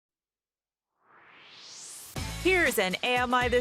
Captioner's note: swoosh